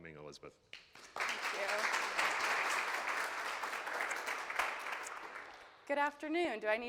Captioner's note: attendees clapping